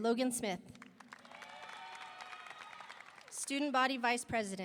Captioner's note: audience applauding; audience cheering